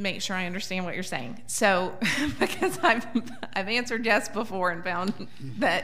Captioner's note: laughs